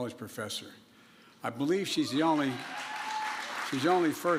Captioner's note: applause